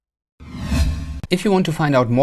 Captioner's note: swoosh